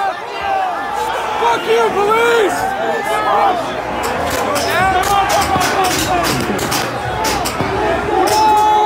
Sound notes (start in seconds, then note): 2.9 crowd yelling and cheering